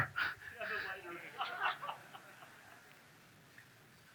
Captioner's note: audience laughs